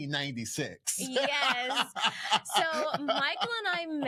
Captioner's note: laughing